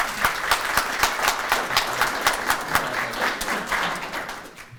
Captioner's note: audience applauding